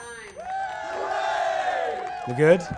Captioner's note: audience cheering